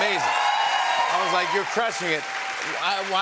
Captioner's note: cheers and applause